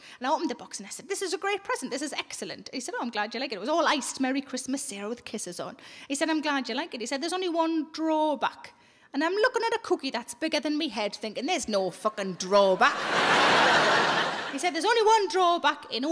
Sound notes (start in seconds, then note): 12.7 audience laughing